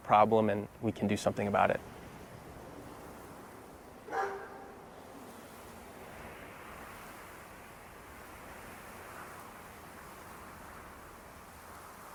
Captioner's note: heavy wind and a lone dog barks